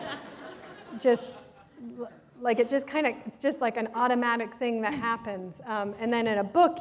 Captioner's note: laughter